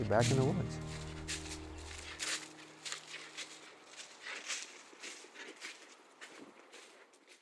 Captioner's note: leaves rustling